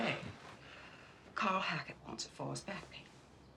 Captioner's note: none